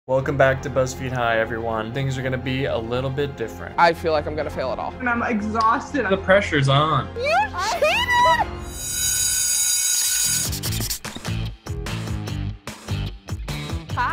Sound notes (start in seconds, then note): 8.7 bell ringing; 10.7 upbeat music